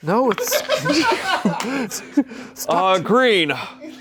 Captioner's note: crew laughs